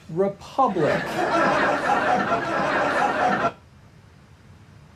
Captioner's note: audience laughing